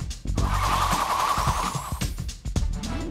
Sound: whirring

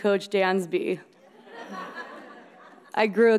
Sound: audience laughing

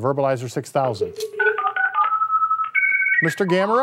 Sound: Verbalizer beeps

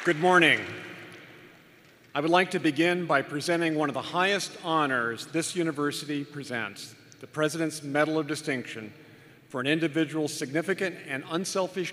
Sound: applause

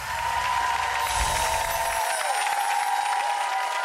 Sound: loud cheering

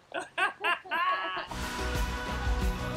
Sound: laughs; upbeat music

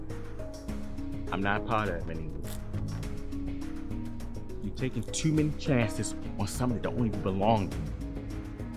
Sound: eerie sound

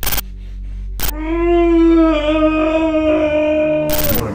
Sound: Ryan screaming; Demonic voice

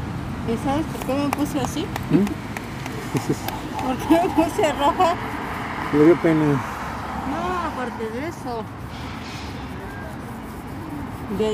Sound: laugh

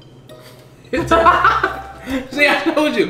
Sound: both laughing

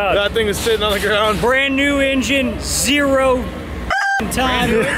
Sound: rooster sound

